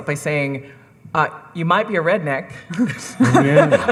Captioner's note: audience laughing